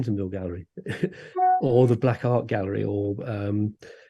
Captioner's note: laughs